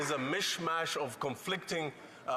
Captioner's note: applause